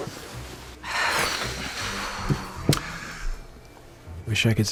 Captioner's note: sighs heavily